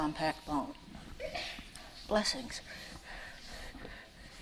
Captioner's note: sneezing